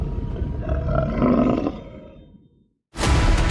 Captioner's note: sea creature growls; bold daunting music